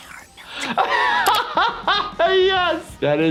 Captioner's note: laughing